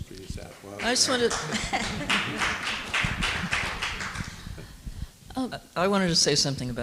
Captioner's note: people clapping